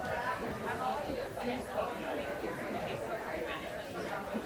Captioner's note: people chattering